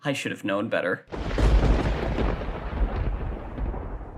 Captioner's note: thunder strikes